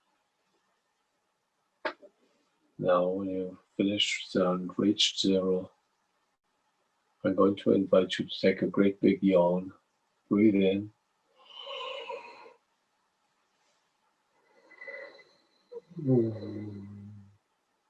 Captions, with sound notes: Now when you finished and reached zero, I'm going to invite you to take a great big yawn. Breath in. (breathing heavily) (yawning heavily)